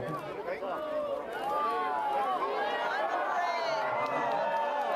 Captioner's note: cheers